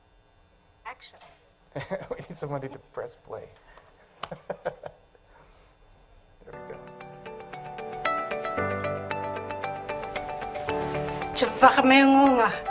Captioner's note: laughs